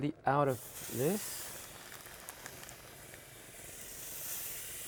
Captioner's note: pan sizzling